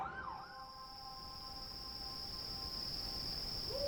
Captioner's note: crickets chirping